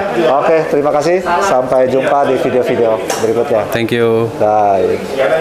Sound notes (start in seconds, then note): 0.1 distant chattering